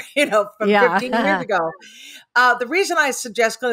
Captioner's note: laughs